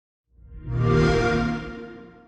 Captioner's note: xbox sound